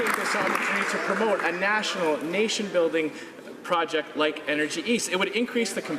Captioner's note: some Applause